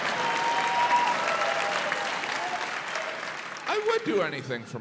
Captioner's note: audience cheering, applauding